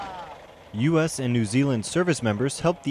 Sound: engine rumbling

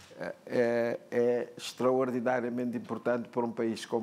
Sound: speaking portuguese

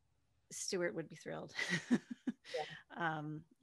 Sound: laughs

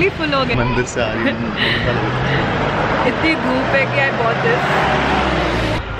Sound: giggle

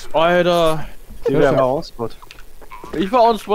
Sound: laugh

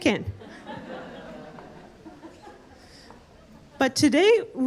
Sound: audience laughing

